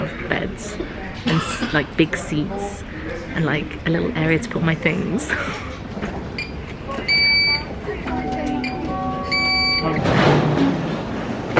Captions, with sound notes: that we're gonna have beds and like big seats and like a little area to put my things. (scanner beeping)